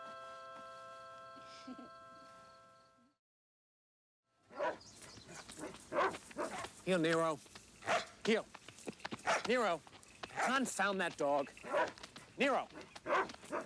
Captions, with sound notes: (Nero barking) - Heel, Nero, heel. Nero, confound that dog. Nero!